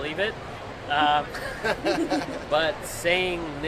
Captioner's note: both laugh